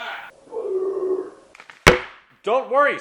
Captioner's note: demonic tone